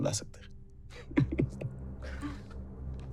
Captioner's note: giggling